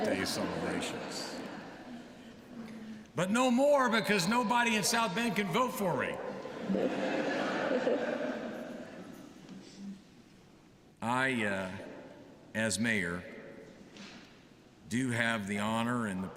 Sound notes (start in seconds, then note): 6.4 laughter